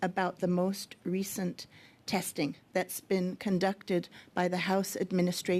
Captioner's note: speaking French